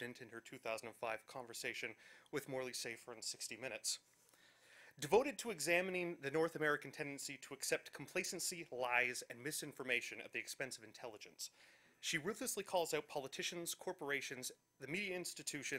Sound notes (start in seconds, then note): none